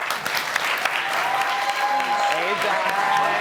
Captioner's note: audience clapping